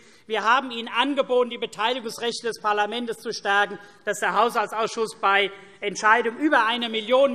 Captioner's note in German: none